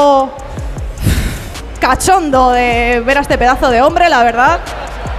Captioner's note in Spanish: resopla